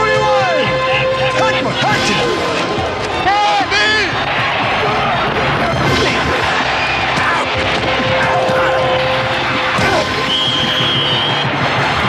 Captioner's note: crowd cheering